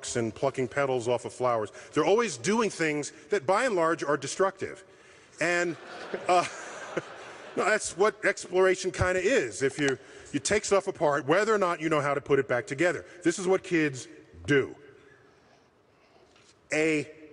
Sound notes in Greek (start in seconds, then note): 5.5 γέλια